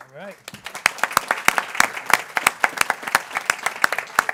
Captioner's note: people clapping